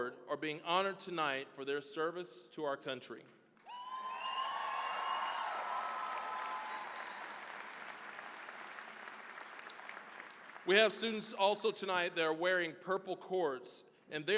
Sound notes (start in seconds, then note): 3.6 cheering, applause